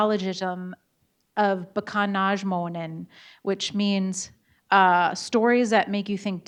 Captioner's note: speaking in Bodéwadmimwen